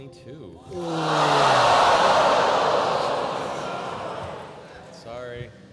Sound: groaning

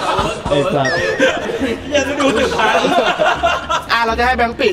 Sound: laughs

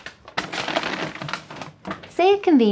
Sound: paper bag rustling

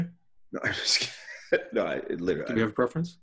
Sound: laughs

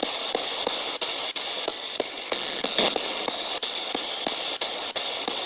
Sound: ghost box hissing

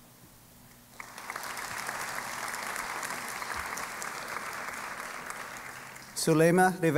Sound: applause

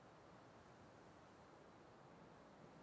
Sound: none

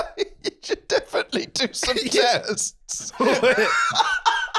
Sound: laughing

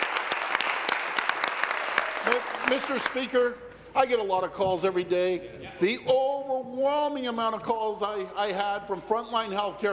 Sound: applause

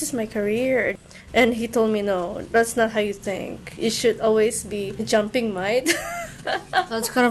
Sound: laughs

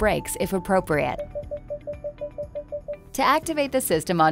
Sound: beeping

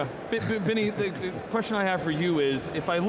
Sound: laughs

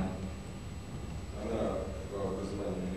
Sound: non-english speech

